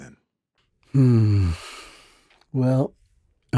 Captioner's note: sighing